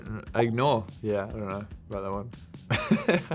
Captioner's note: laughing